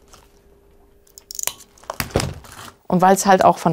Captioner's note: cracking